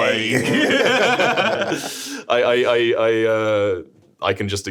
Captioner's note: streamers laughing